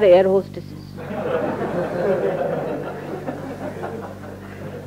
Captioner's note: laughter